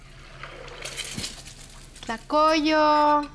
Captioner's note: sizzling